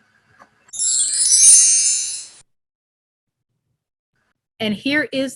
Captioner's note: chime noise